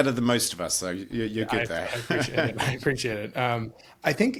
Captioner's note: laughs